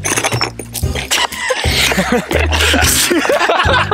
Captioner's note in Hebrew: צחוק